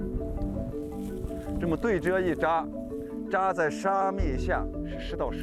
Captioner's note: speaking chinese